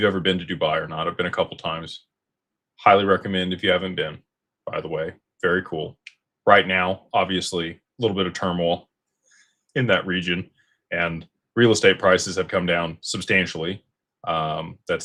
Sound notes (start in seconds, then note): none